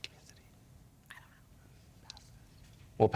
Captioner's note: whispering